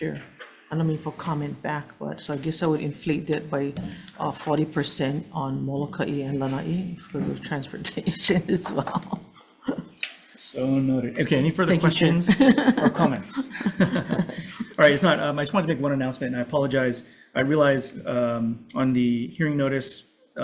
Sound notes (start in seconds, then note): 8.5 laughs; 12.2 laughs